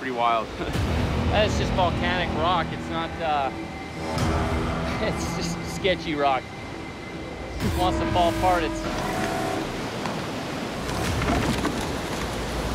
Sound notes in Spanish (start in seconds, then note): 10.8 rocas cayendo